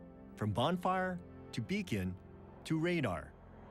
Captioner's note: none